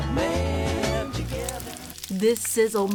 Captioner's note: sizzling food